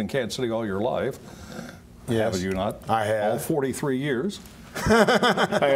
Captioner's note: laughter